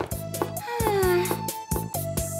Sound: sighs

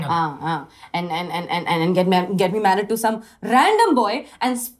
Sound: stammering

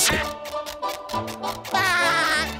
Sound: laughing

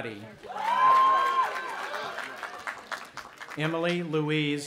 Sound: audience applauding and cheering

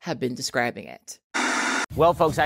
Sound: white noise static plays

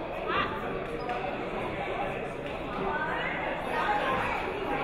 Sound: chatting

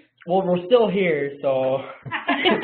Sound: laugh

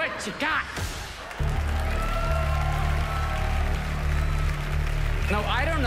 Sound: audience cheering, applauding

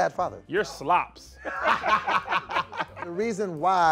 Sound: laughing

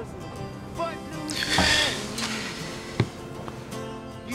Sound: sigh

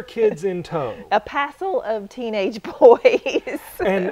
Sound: laughter

